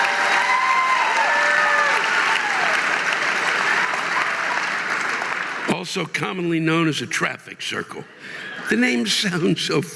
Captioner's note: audience laughing and applauding